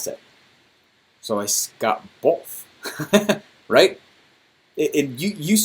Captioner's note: laughs